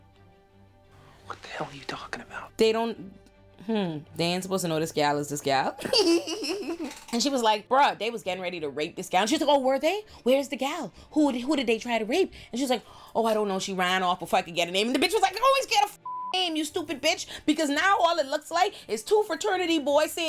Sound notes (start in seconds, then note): 5.8 laughing; 16.0 beep